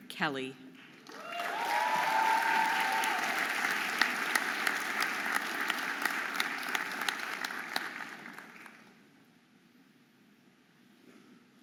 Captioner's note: audience applauding and cheering